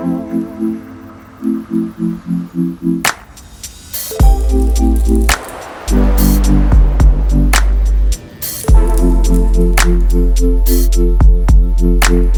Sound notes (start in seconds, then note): 5.3 light clicking; 9.5 light clicking